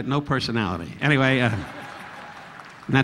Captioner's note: audience laughing